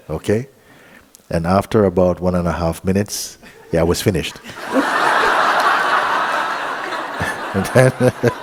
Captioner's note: laughter